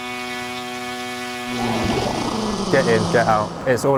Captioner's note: drone whirring